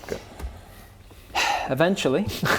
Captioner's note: theatrical sigh